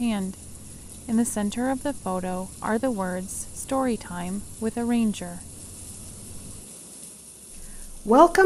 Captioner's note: rain sounds